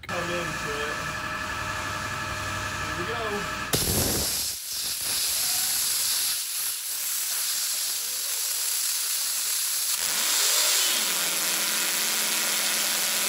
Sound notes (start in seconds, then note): 0.0 machine running; 4.0 water spurts violently; 10.0 motor spins rapidly